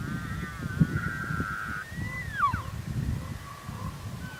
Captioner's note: sound of elk